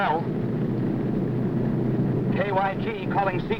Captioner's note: plane whirring